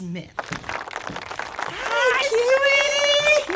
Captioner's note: audience applauding